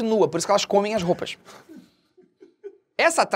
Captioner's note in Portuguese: risadas